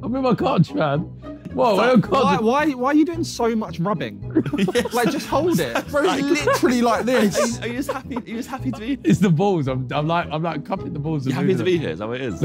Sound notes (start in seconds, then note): 4.3 laughing